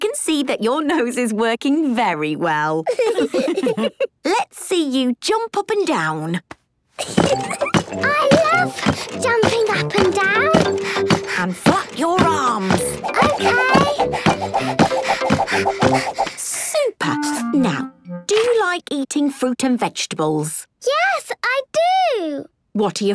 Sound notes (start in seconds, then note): 2.8 laughs; 7.0 giggles; 11.5 panting; 14.7 panting